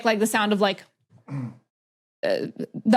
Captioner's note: clears throat